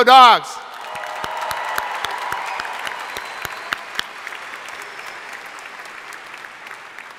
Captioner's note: crowd cheering; crowd applauding